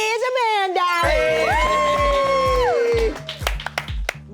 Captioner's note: crowd cheers